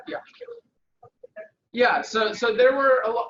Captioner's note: mic garbling